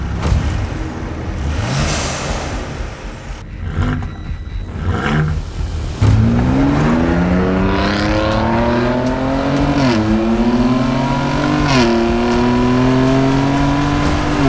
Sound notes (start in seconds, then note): 0.3 epic Turbo Sounds; 3.8 awesome Exhaust Noises; 6.6 fast Ute Sounds